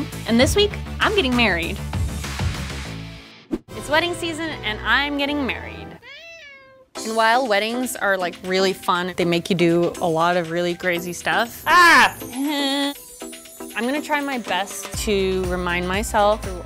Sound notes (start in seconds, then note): 5.9 cat meows; 11.7 grunting